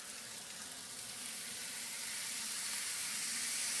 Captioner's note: rice sizzles